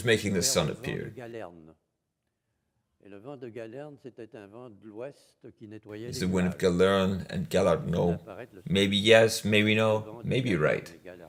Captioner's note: laughs